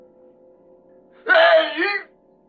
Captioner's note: groaning